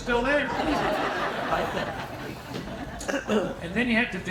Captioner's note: audience laughing